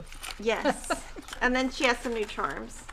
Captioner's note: laughing